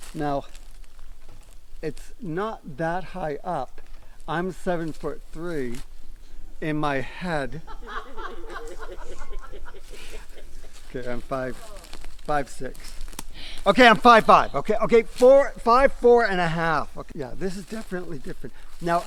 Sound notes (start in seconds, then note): 7.3 group laughs